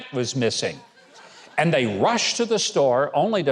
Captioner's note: audience chuckles